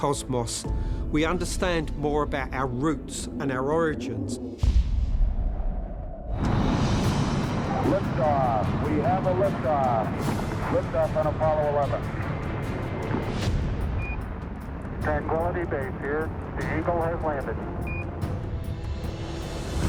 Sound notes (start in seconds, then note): 14.0 beeping